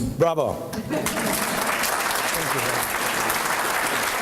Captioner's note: applause